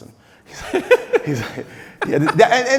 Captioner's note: laughing